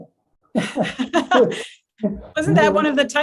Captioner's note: laughs